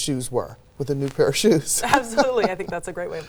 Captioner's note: laughs